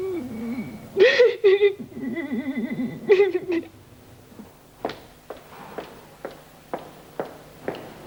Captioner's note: cries